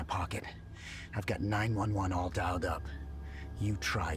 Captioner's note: inhales